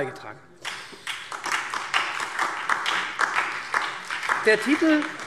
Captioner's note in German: Beifall SPD und DIE LINKE